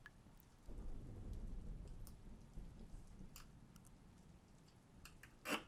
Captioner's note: thunder rumbles gently